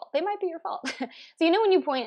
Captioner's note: laughs